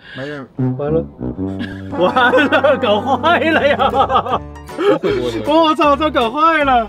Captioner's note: laughter